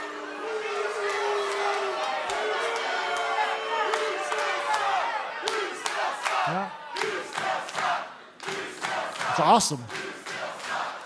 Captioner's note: crowd cheering